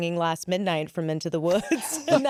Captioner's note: laughs